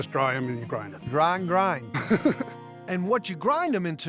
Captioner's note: laughs